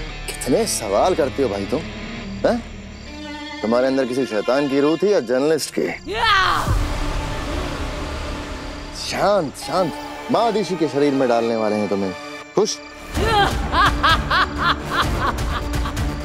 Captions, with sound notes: You ask too many questions! Are you a soul of a demon or a journalist? [screams] Calm down! I am going to put you in Maa Adishi's body. Happy now? [laughs]